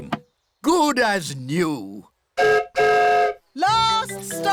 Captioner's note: whistle blows